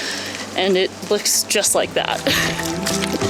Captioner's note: laughs